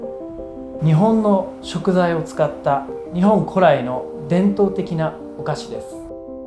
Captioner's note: speaking in foreign language